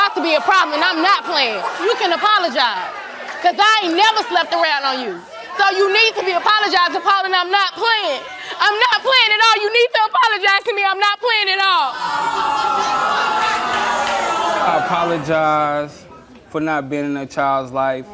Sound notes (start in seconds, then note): 11.9 audience awwing